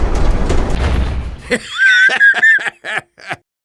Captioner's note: laugh